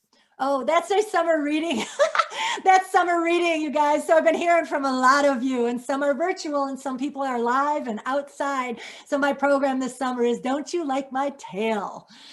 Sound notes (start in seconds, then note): 1.8 laughs